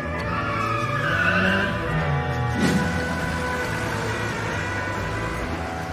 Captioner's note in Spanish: Sonido velocidad coche